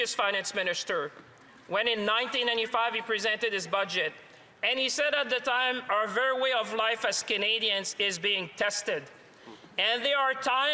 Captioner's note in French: voix de l'interprète